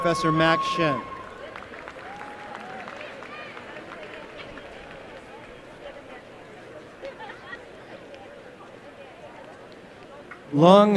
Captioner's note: applause